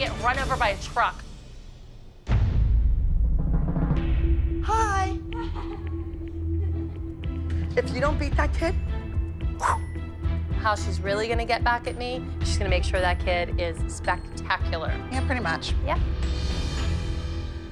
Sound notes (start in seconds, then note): 5.3 chuckling; 9.3 whooshes